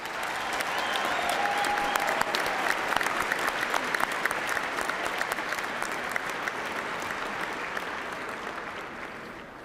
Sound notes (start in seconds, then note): 4.8 cheers and applause